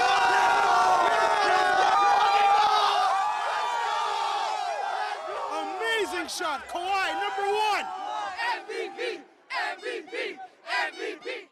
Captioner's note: cheers and Applause